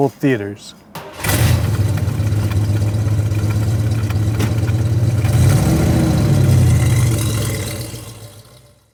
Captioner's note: engine rumbling